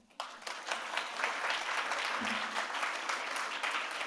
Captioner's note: audience applauds